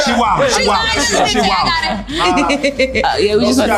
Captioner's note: overlapping chatter